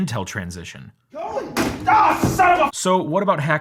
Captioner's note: container banging